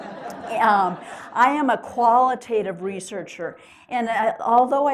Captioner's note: laughter